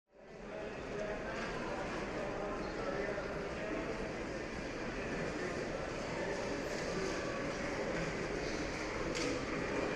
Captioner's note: generic airport background noise